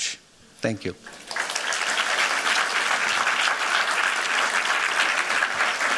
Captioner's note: applause